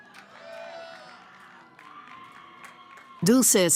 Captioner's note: cheering